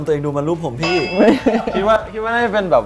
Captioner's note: laugh